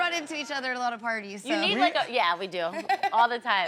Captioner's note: laughing